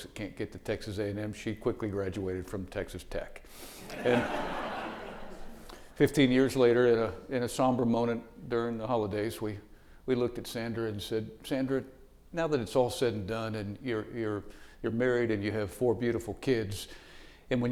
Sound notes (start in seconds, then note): 3.8 audience laughing